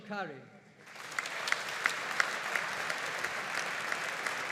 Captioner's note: audience applauding